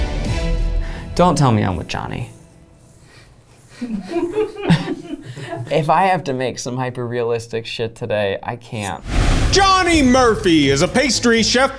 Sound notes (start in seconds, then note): 3.6 backstage workers and laugh